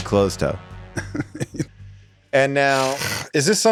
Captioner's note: Rob chuckles